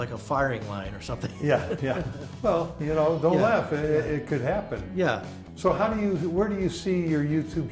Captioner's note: laughing